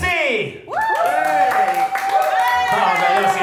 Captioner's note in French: Applaudissements